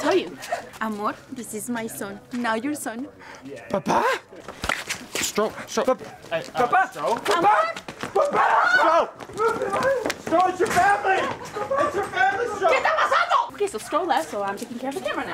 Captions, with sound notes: Amor, this is my son, now your son (gasp) ¡¿Papa?! Strode? Strode? Hey, uh, no? ¡Papa! ¡Papa! ¡Papa! No! (mumbling and crying) No, it's your family! It's your family, Strode! (speaks spanish) Ok, so Strode left and now I'm taking care of the camera now